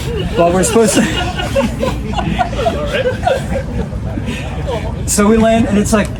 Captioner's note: members of the audience laughing